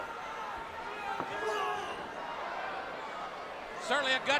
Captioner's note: crowd chatter